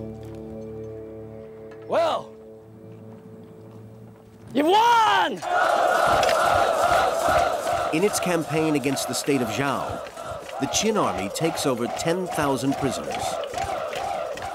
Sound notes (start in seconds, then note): 5.4 soldiers chanting